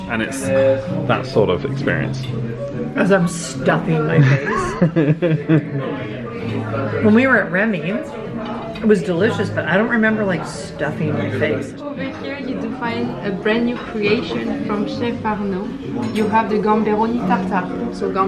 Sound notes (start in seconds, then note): 4.2 chuckles